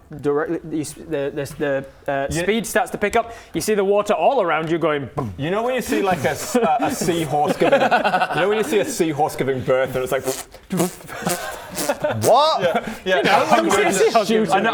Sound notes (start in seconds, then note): 10.0 pfft pfft pfft; 10.0 pffpt